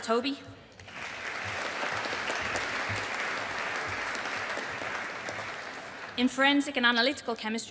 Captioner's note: audience applauding